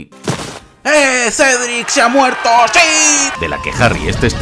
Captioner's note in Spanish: multitud